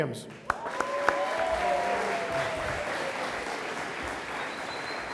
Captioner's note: audience applauding